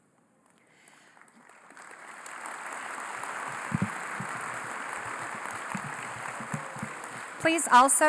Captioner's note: applause